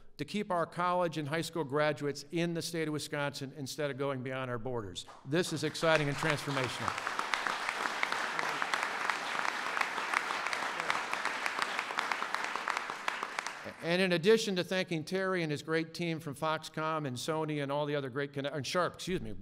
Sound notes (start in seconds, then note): 6.7 applause